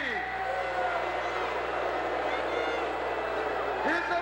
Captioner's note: crowd boos